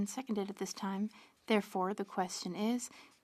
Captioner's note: speaking French